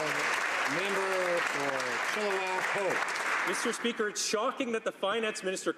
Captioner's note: some Applause